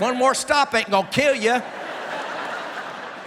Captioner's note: laughter